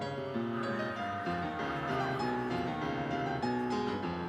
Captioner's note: audience cheering